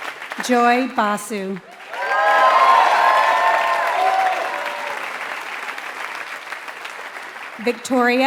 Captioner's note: applause